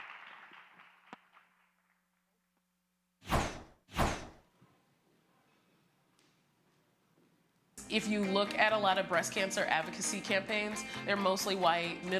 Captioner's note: applause